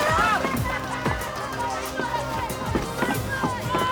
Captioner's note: crowd murmuring